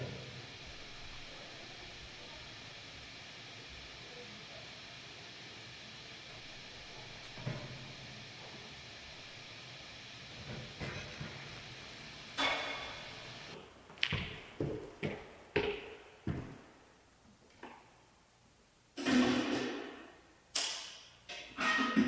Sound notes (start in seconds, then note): 10.8 metal thudding; 12.1 metal clangs; 19.2 metal clanging